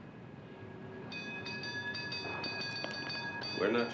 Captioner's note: tram bell ringing